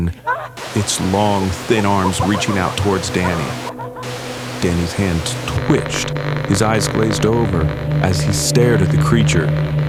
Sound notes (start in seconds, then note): 0.2 crazed laughing; 7.2 static